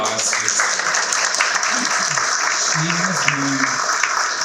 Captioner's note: audience clapping